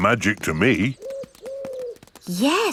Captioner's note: owl hooting